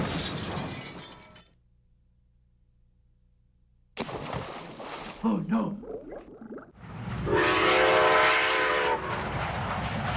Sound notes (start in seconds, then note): 0.0 loud crash; 4.0 water splashing; 5.5 voiceover; 6.6 water bubbling